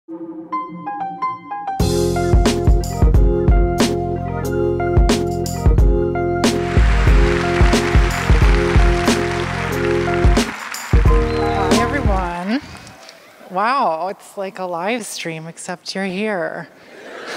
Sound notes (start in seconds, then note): 6.5 applause; 16.9 laughter